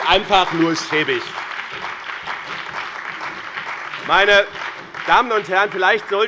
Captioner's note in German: Beifall bei dem BÜNDNIS 90/DIE GRÜNEN und der CDU